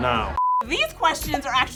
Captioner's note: beep